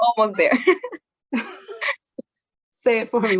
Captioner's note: both laughing